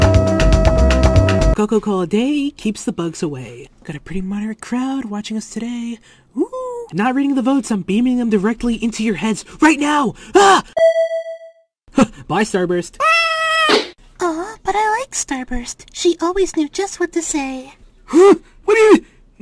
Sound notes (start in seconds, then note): 13.0 scream; 13.5 pop!